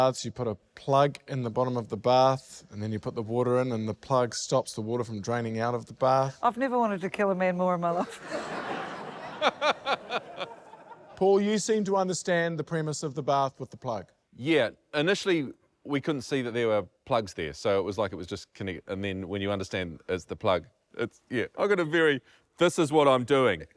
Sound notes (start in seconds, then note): 8.0 laughs